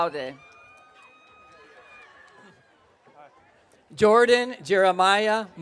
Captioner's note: audience cheering